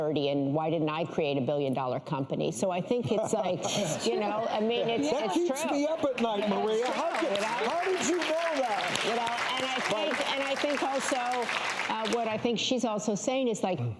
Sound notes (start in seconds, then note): 3.1 laughs; 9.2 applause